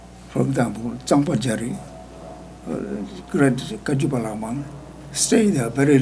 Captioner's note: speaking foreign language